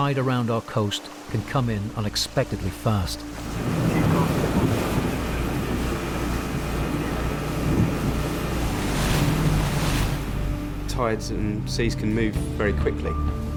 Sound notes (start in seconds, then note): 4.0 motor whirring; 4.0 water splashing